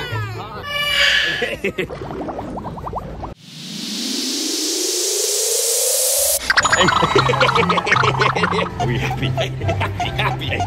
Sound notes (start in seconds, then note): 0.1 yelling; 7.0 laughing